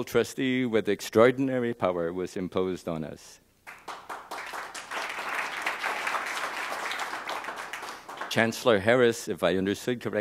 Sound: applause

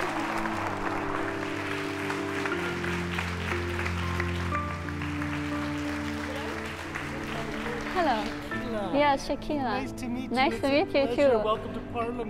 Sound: applause

